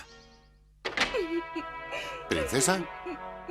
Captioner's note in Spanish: llora